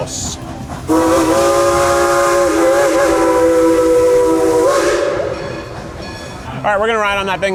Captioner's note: train whistle piercing; bell clanging